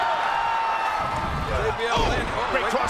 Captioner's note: crowd cheers